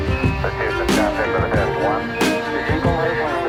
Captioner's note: dramatic music; astronauts speaking faintly